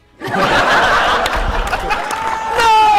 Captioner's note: laughter